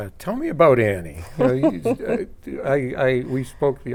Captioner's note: laughing